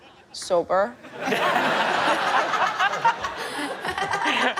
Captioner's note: all laughing